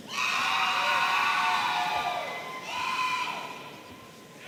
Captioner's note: audience cheering